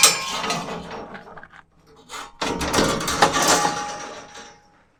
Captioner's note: metal clanging continues